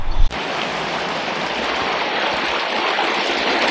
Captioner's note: water flows